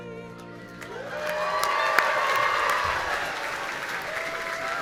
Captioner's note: audience cheering